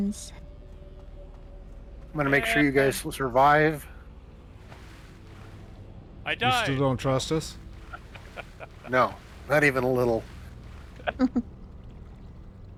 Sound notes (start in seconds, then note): 11.0 laughing